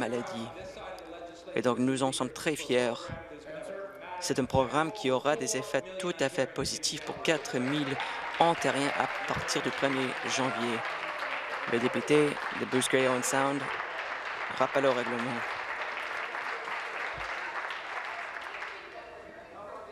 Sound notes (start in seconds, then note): 12.8 applause